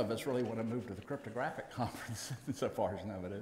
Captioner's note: laughs